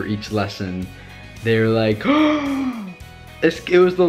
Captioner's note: gasps